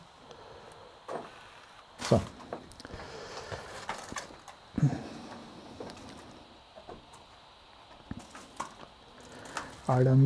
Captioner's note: wind in the background